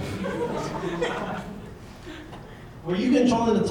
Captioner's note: audience laughing